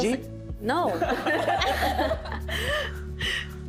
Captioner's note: all laughing